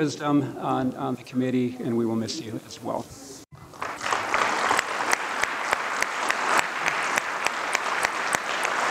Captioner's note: applause